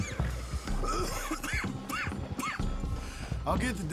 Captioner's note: Arthur coughs